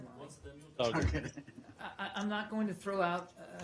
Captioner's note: laughter